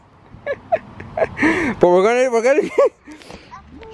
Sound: laughs; laughs

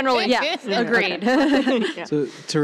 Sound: laughter

